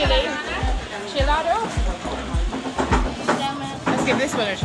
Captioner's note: speaking foreign language